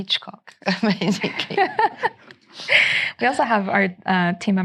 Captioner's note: laughing